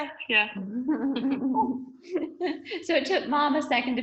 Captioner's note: laughs